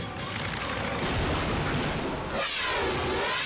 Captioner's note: plane crashes